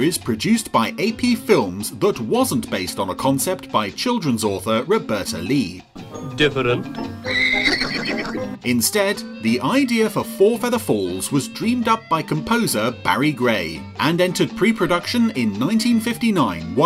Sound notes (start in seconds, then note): 7.0 neighs